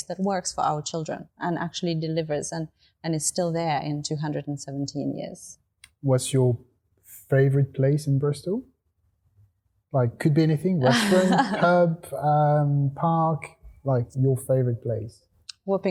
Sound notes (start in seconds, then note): 10.6 laughing